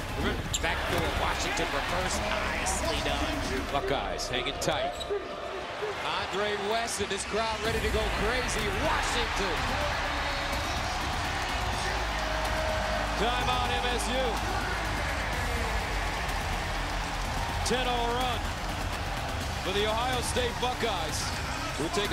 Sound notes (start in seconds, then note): 11.7 cheers; 16.4 cheers